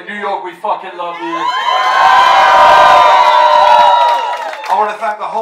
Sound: crowd cheers

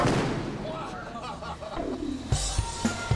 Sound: people exclaiming

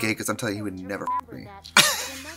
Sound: beep

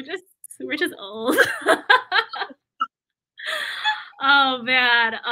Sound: laughter

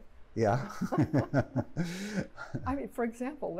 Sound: laughter

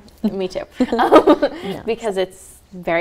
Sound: both laughing

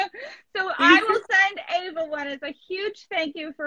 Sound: laughs

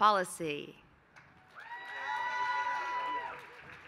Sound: applause

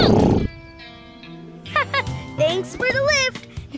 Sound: chuckles

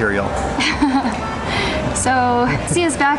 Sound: laughs

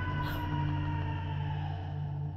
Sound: far-off shouts; gasp

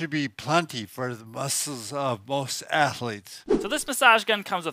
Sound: air whooshing

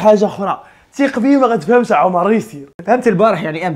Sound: speaking in Darija dialect

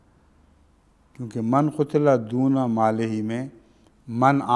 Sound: Arabic

